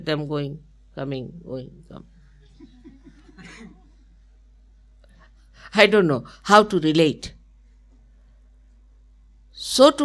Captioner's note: laughter